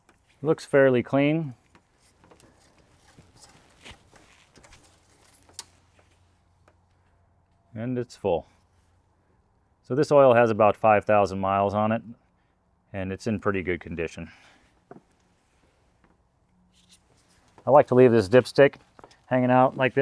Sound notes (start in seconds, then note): 1.3 silence